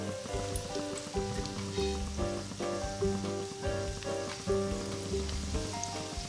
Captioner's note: bright music; oil sizzling